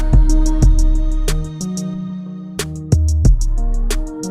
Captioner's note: pew